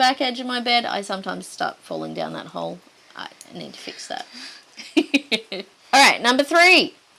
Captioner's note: giggles